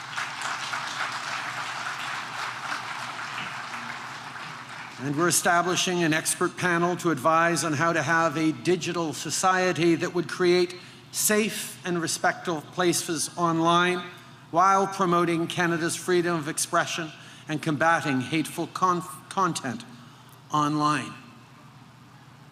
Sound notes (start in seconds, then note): 3.5 applause